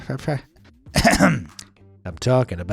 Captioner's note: clears throat